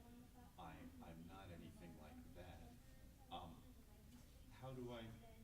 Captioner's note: responds quietly